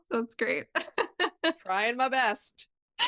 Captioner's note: laughs